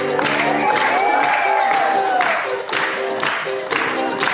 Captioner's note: audience cheering